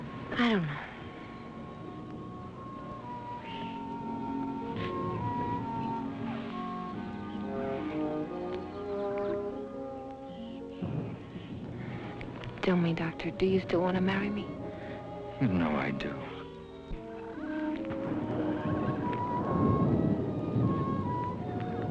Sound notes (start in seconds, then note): 1.2 birds chirping; 1.2 gentle music; 11.5 thunder rumbling; 16.8 gentle music; 16.8 thunder rumbling